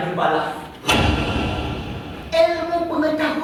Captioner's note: SFX: Spotlight